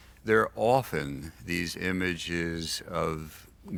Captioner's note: none